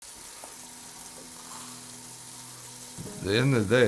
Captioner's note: pots sizzling